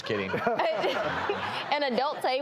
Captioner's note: laughing